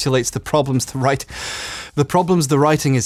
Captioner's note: inhales sharply